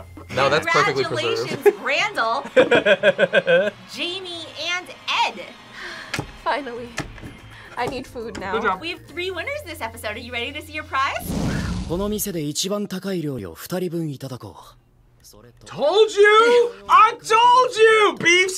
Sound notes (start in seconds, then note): 2.4 laughs; 5.9 sighs